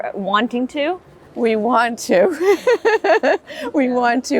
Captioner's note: laughs